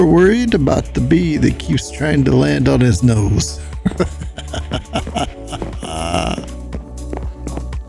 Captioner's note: laughs